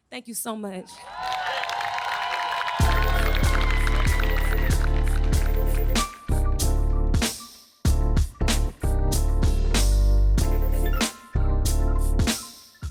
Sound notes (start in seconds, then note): 1.0 audience applauding and cheering; 3.0 chill hip hop music